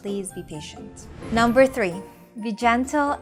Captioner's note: text bubble whooshing